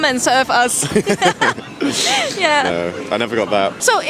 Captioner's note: lauging